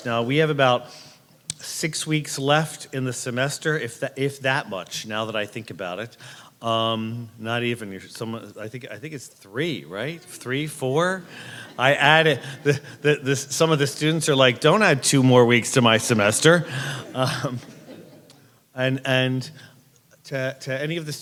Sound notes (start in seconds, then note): 15.4 crowd laughs